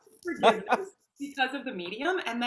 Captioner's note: laughing